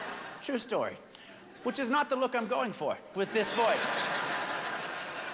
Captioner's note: laughter